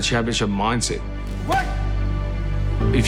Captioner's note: grunting